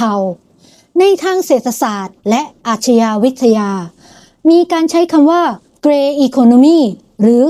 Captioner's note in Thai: เสียงสูดหายใจ